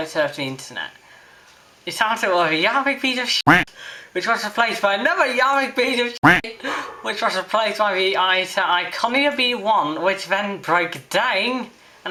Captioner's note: quack